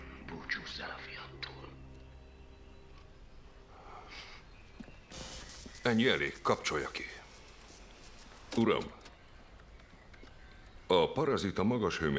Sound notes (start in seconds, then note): 5.1 electricity crackling